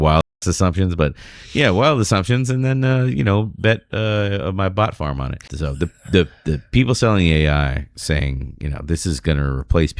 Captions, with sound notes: wild **** assumptions. But yeah, well, assumptions then [UH] you know, that my bot farm on it So the. The people selling .I. saying you. Now this is going to replace